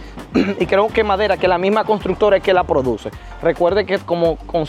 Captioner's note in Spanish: carraspeo